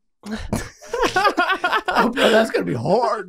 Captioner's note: group laughing